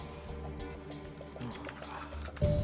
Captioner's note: panting